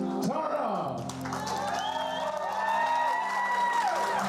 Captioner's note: cheering, applause